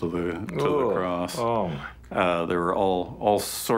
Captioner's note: sounds of disgust